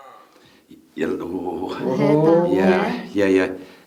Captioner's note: growling